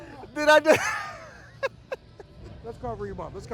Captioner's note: laughs